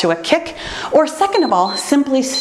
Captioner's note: timer beeps